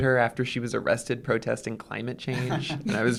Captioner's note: laughter